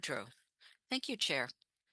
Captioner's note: speaking French